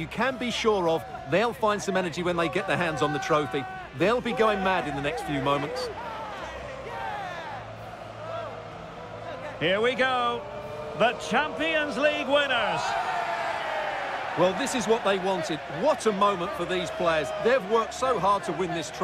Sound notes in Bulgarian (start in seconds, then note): 6.8 аплодисменти